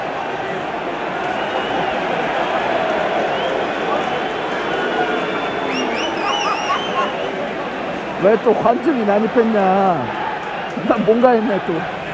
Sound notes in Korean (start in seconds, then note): 3.8 노리치 팬들의 환호와 웃음소리가 이어졌다ㅋㅋ